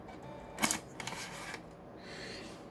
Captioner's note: external dvd drive ejecting